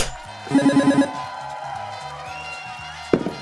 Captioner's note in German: Jubel